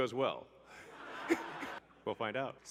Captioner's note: everybody laughs